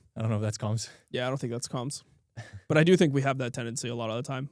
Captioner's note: chuckles